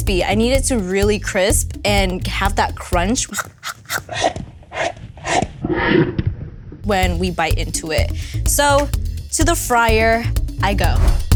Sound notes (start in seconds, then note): 3.2 chomping; 11.1 upbeat music